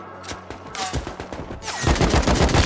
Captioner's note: bullets whizzing